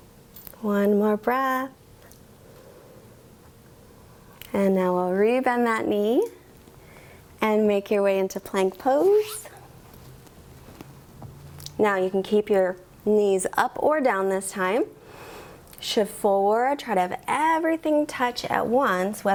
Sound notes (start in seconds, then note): 2.2 inhales; 4.1 exhales